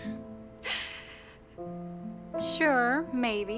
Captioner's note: laughs